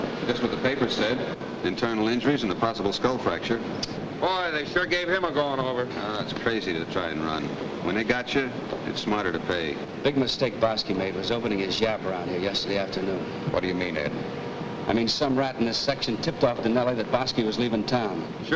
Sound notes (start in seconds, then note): 4.1 clicks tongue